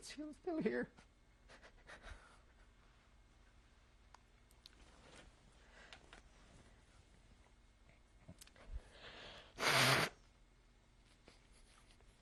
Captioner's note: crying